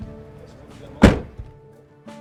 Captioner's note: door shuts